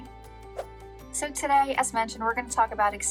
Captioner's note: air whooshing